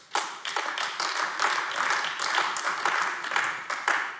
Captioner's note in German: Beifall AfD